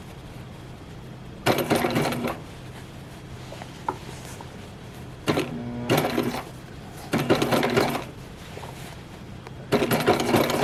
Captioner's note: slightly hesitant sewing machine noises